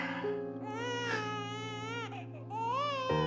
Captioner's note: crying continues